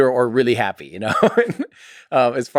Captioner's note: Tim laughs